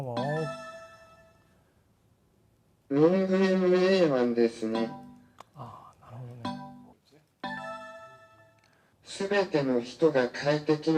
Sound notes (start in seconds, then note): 0.0 electronic startup sound; 7.4 electronic startup sound